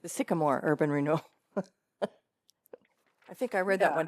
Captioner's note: laughter